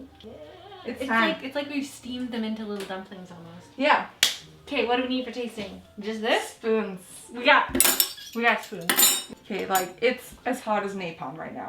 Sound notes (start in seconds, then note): 4.2 clapping; 7.7 spoons clinking